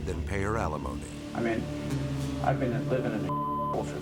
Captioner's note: beep